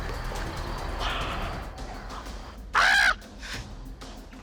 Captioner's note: gasps